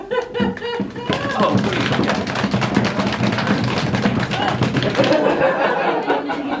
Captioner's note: audience powered drum roll